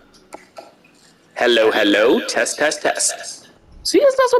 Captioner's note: the recording playing, with echoing